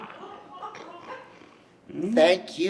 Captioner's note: snorting